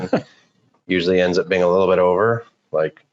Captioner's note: laughing